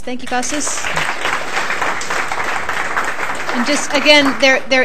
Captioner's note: applause